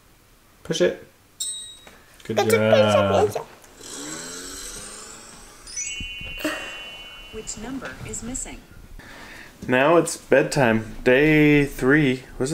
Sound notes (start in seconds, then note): 1.8 tablet dinging; 3.4 car revving